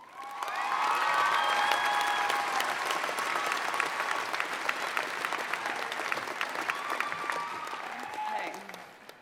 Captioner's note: applause